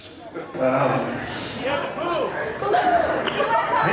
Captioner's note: crowd